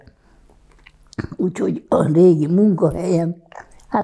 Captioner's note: clears throat